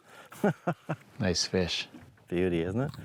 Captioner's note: laughs